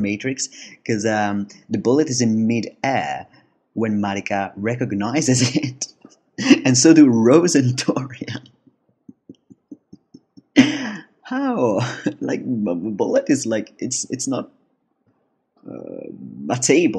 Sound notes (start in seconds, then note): 10.4 laughs